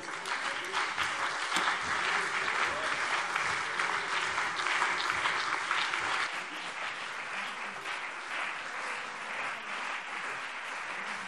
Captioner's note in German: Beifall CDU und BÜNDNIS 90/DIE GRÜNEN - Zurufe SPD und DIE LINKE